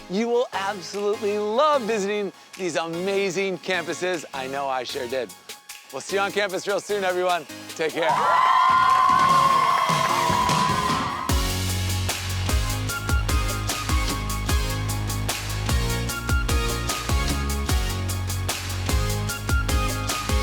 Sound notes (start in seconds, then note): 8.0 crowd cheers; 11.2 upbeat music